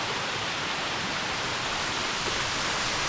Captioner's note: water splashing